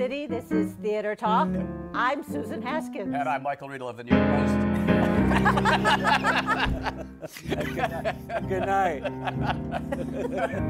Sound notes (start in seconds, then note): 5.0 laughter